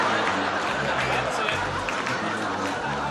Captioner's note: laughter